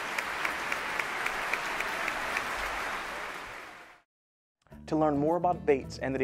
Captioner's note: applause